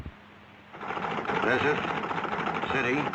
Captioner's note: typewriter clacking